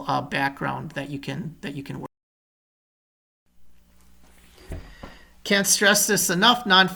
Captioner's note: audio trails off